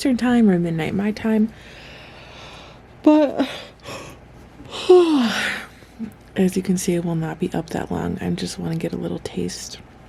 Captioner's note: yawn